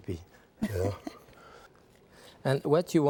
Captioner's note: chuckling